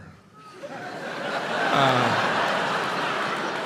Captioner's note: crowd laughs